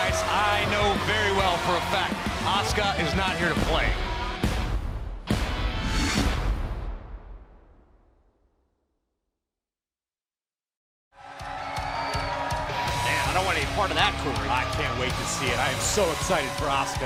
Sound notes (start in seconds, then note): 3.9 crowd cheering